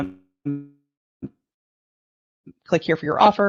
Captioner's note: audio distortion